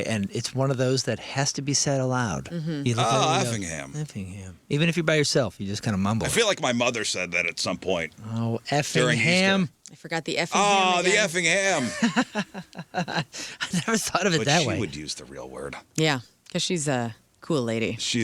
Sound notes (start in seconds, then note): 11.6 laughing